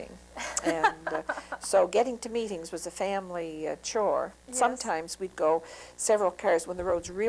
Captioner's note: laughter